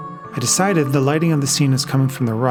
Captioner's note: none